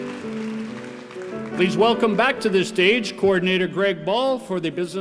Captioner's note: applause